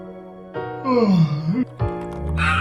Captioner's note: yawn